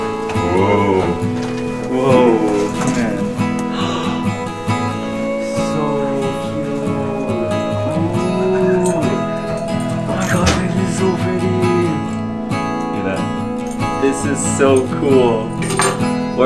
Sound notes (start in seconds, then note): 3.3 gasps